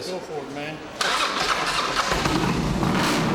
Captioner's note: engine turning over